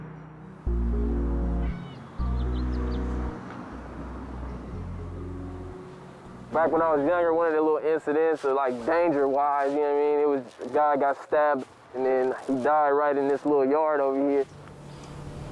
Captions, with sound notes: (bird chirps) - Back when I was younger, one of the incidents like danger-wise, you know what I mean, it was a guy got stabbed and then he died right in this little yard over here.